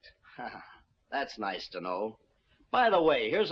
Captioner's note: laughs